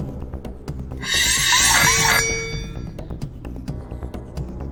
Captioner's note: swords clanging